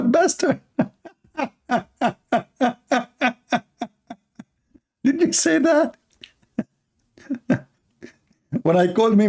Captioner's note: Ketawa